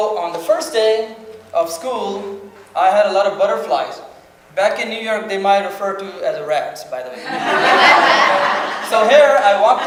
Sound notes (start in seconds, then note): 7.2 audience laughs